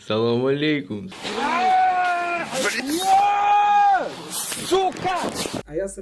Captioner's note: shouting